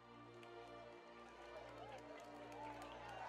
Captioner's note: people applauding